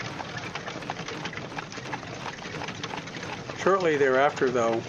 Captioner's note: wagons clacking